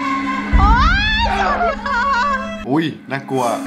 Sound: scerams

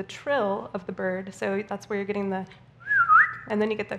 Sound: whistles

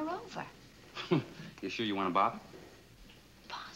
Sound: chuckles

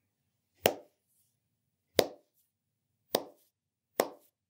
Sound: soft claps

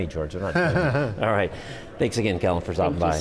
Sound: laughs

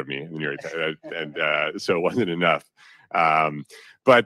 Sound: chuckles

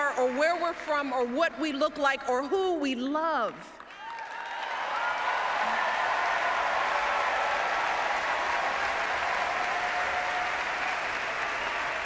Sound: applause

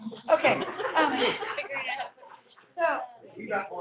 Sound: laughter

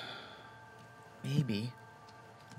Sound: sighs

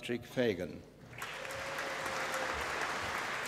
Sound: applause

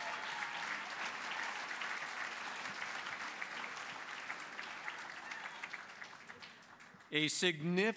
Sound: applause

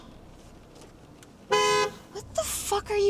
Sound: car honking

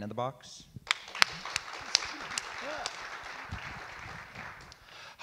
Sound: audience clap

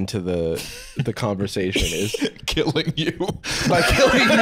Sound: laughing

